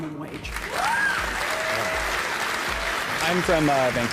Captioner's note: applause